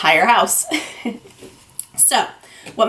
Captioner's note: chuckles